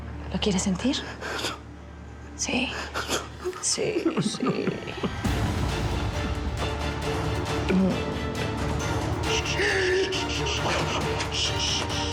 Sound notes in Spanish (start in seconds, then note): 2.9 sollozando; 5.7 llorando; 11.4 gastón sigue llorando